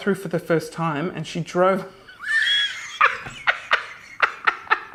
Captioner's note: laughing